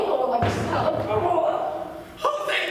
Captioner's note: knocking